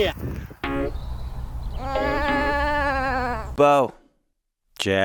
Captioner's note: light upbeat music continues; sheep baaing